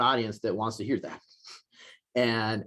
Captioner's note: chuckles